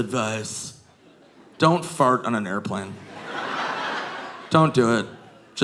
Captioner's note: audience laughing